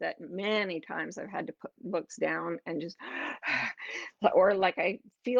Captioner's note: heavy breathing